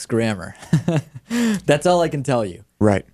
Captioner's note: laughs